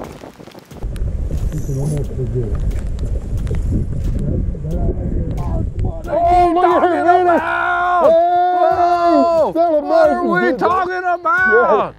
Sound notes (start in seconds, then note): 5.2 yelling